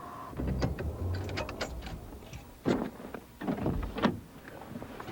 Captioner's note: vehicle rustling